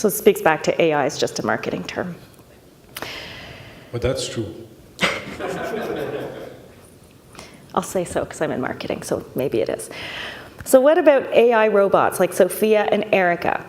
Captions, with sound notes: So, it speaks back to AI, it's just a marketing term. Well, that's true... [all laughing] I'll say so 'cause I'm in marketing, so maybe it is... So, what about AI robots, like Sophia and Erica,